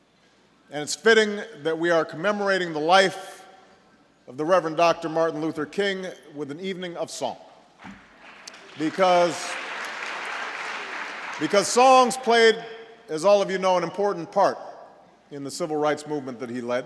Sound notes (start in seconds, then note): 8.1 applause